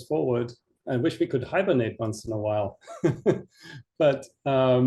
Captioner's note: chuckles